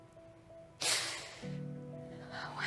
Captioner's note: sighs